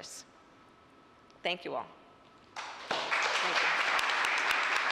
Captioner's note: applause